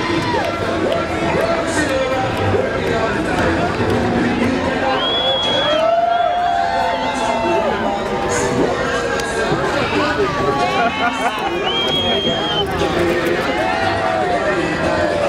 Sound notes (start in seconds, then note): 4.8 crowd woo's and whistles; 8.9 cheering and laughing